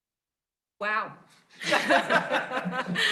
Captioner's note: laughter